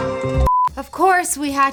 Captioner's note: beep